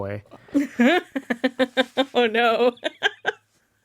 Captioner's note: laughs